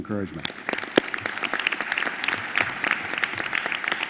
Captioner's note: applause